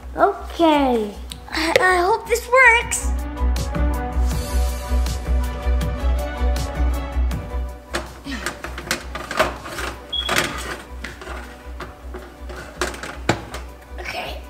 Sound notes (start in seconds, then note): 2.9 dramatic music; 10.0 beeping